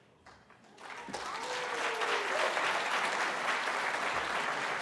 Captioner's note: applause